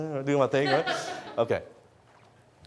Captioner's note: audience laughs